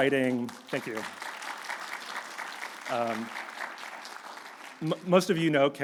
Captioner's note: audience clapping